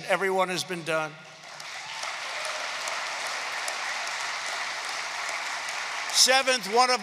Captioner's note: applause